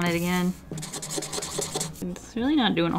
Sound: rapid cleaning scrapes

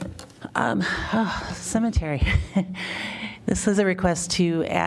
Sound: laughter

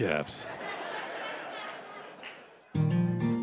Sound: laughter

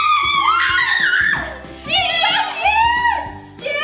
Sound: excited yelling

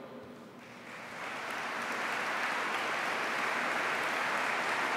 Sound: applause

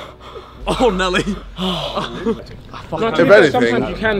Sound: man gasping

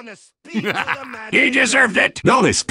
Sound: laughs

